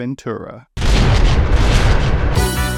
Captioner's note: ominous lightning; outro music